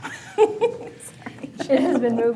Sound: laughs

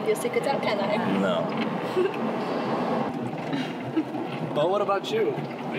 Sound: Pam giggles

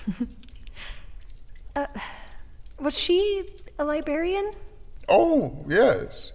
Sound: chuckle

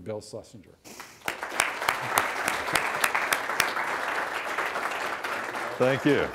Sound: applause

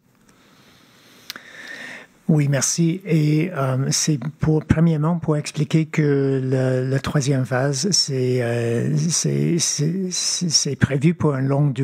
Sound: speaking French

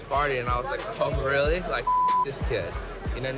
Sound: beep

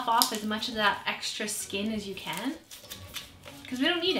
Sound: garlic crackling

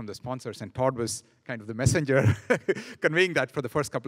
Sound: laughing

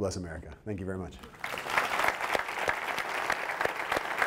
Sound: applause

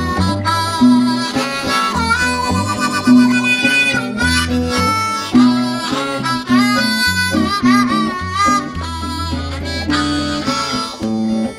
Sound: harmonica jabs; wahs and wails

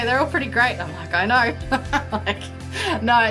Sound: laughs

